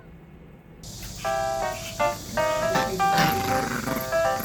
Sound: laughing

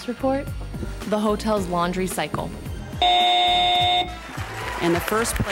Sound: buzzer sound

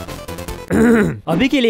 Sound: clears throat

